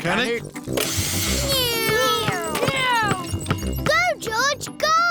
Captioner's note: whirring